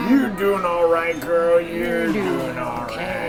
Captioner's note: laughing; western voice